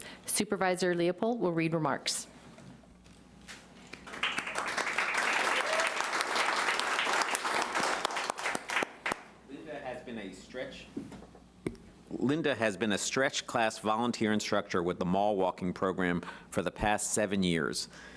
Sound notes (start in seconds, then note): 4.0 applauding